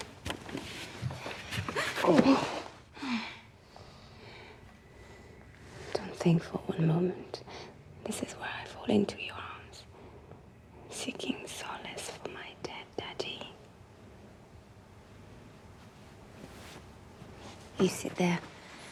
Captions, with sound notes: Heh! Ooh! [Heavy breating] Dont' think for one moment this is where I fall into your arms, seeking solace for my dead daddy. [Rustling] You sit there.